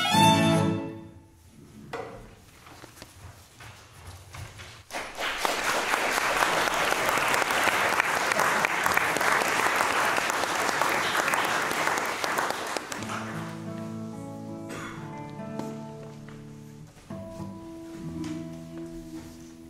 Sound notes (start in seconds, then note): 4.8 applause; 13.0 tuning guitar